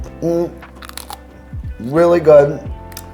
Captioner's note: chips crunches